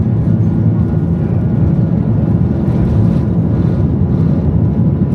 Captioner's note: engine humming continues